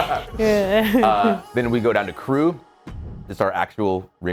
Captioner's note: laugh